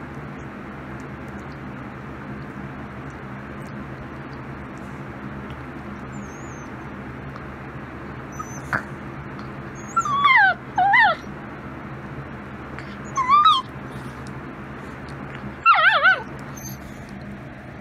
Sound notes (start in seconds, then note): 0.8 Ella whimpers; 9.9 continues whimpering